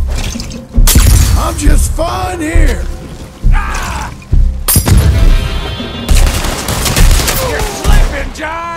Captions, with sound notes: - I'm just fine here! (screams) (gunshots) - You're slipping, John!